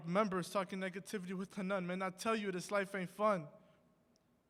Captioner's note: none